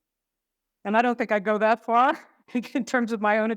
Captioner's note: laughs